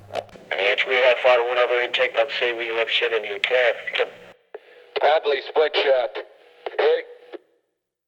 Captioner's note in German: Gegensprechanlagegeräusch